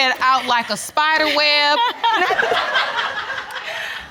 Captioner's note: laughing